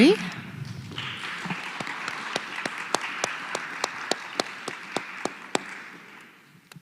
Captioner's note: applause